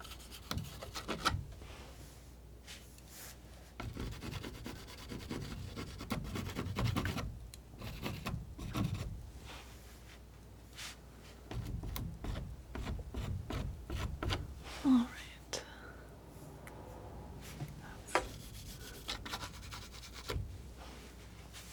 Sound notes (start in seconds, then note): 0.6 scratching; 15.4 scratching